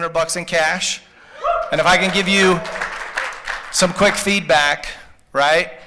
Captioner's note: applause